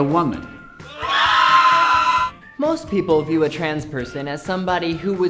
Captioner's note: screams as group falls